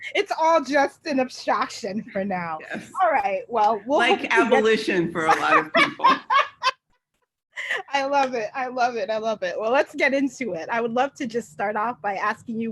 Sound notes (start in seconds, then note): 5.2 laughs